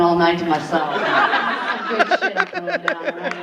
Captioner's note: audience laughing